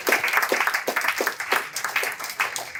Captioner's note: applause